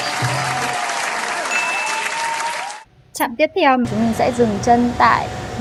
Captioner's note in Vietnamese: vỗ tay